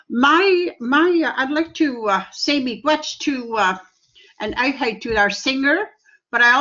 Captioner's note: speaking in Cree